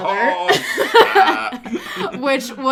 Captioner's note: laughter